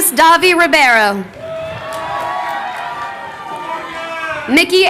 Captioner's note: crowd cheering